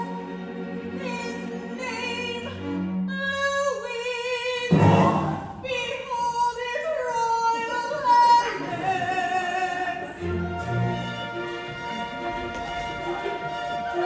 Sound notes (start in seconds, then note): 3.4 dramatic 'Bom!' Everyone gasps!; 8.6 A smattering of laughter